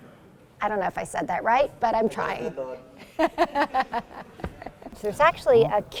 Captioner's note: laughs